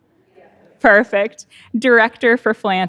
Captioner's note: speaks faintly